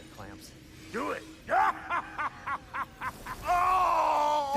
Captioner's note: laughs